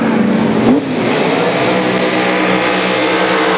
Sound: burnout sounds

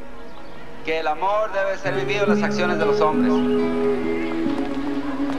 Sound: speaking in Spanish

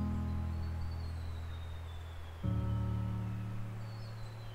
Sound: birdsong

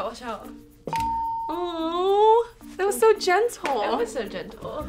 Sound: bell rings

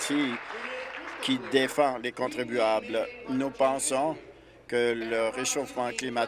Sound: applause

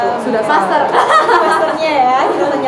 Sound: laughs

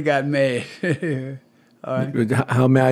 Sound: laughter

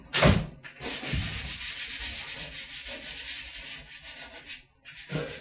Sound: light pencil scratches

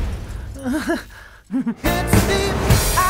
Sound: chuckles nervously

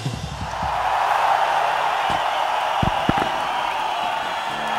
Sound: audience cheering

